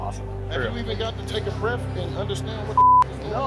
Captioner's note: beep